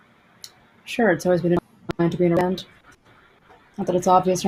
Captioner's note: distorted audio